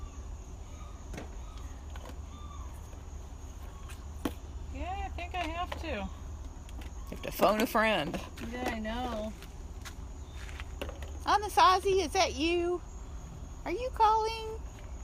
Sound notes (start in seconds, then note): none